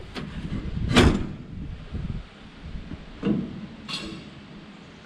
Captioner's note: metal banging